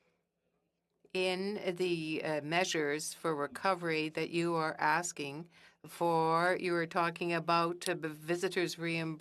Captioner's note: speaking French